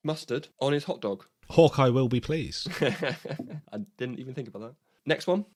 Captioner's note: laughs